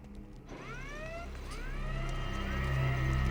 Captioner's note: none